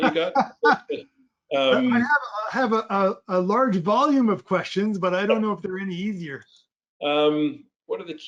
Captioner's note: laugh